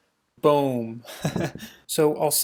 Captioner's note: laughs